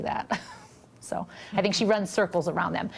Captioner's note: laughter